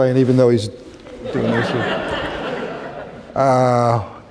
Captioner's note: laughter